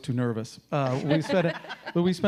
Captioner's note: laughing